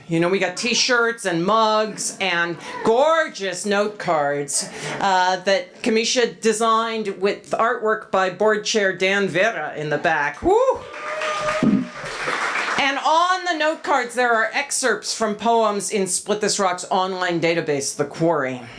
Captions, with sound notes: We got t-shirts and mugs and gorgeous notecards that Camisha designed with artwork by board chair Dan Vera in the back. Whoo! [applause] And on the notecards there are excerpts from poems in Split This Rock’s online database, The Quarry.